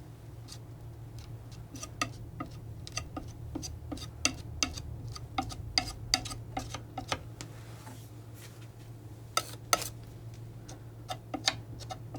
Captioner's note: tapping